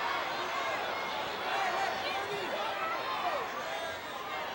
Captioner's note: wrestlers chattering